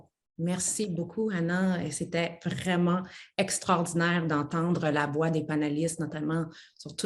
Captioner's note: speaks French